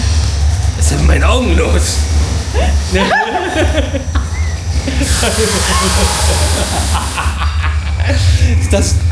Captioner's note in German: gelächter